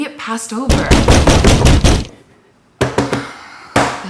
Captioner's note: door pounding